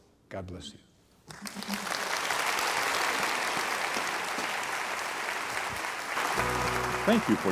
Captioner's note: applause